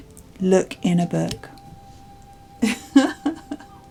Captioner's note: laughs